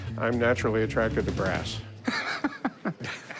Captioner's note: laughter